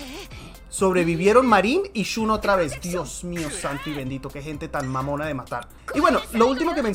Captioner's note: cursing in spanish